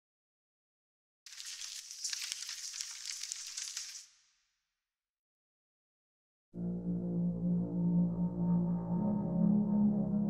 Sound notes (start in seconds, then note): 1.3 cracking ice; 6.5 ominous music